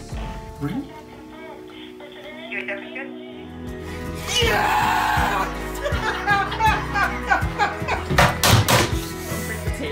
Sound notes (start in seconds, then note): 5.2 laughs